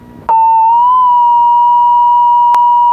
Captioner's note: beep